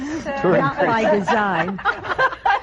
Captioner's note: laughter